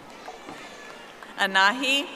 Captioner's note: audience applauding